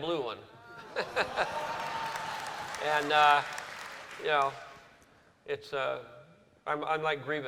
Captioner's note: chuckles